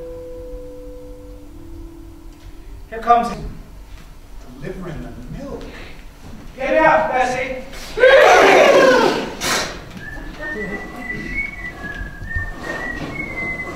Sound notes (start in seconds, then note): 7.5 animal noises; 9.4 whistling